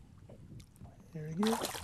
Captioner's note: splash